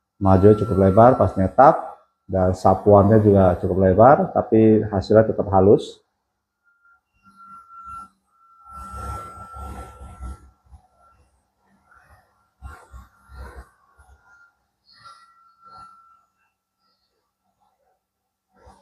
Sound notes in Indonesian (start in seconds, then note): 8.5 printing